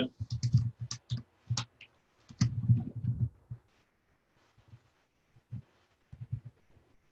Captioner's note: typing